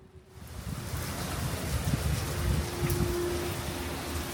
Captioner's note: sound of heavy rain